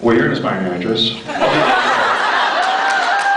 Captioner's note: laughs; laughs, cheers